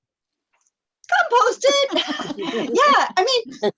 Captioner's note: laughter